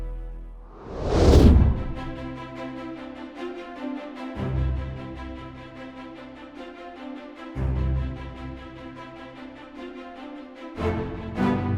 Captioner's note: whooshing Sound, Music Continues